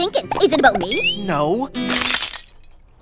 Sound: hearts shatter

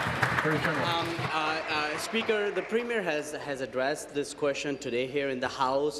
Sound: applause

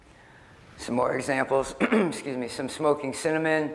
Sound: clears throat

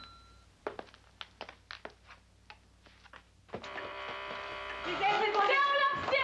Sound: doorbell rings

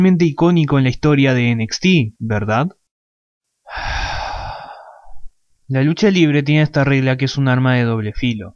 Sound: sighs

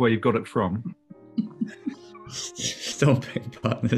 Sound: giggling

